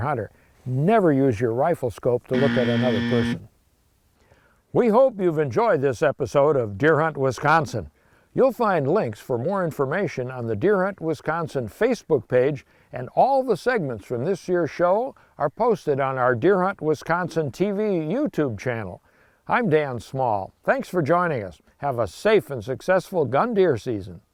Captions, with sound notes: or check out another hunter. Never use your rifle scope to look at another person. (buzzer buzzes) We hope you've enjoyed this episode of Deer Hunt Wisconsin. You'll find links for more information on the Deer Hunt Wisconsin Facebook page and all the segments from this year's show are posted on our Deer Hunt Wisconsin TV YouTube channel. I'm Dan Small. Thanks for joining us.